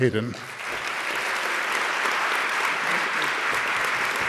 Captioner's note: audience clapping